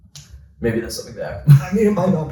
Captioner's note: laughs